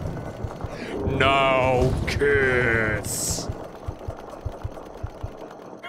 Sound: laughing; deep voice

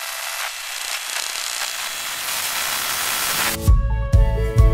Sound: static; upbeat music plays again

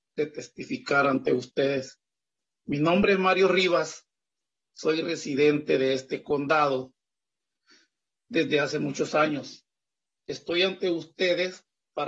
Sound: speaking in spanish

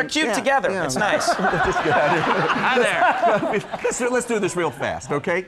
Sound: all laugh

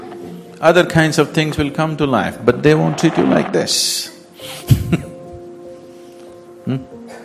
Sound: laughs

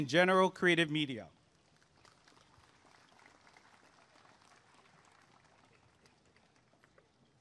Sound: applause and cheering

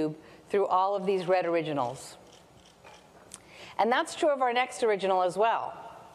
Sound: none

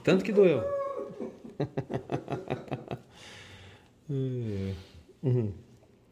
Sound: laughter

